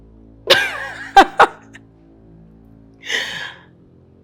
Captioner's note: laughs